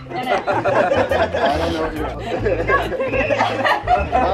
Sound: group laughs

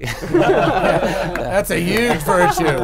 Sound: laughing

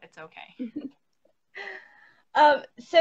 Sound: laughs

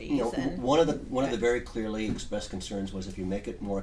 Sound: voiceover

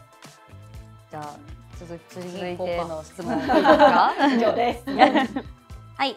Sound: laughter

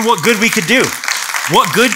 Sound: applause

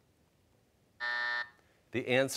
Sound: buzzer

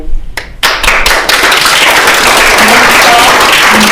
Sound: attendees applauding

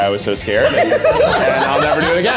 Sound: everyone laughs

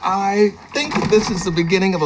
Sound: bell chiming

